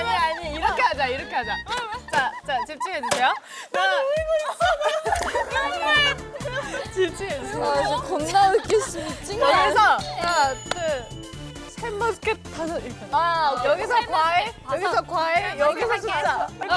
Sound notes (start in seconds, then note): 2.5 dying of laughter